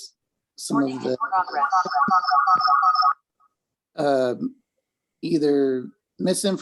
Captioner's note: distorted audio echoing